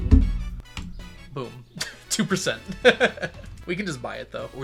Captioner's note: laughs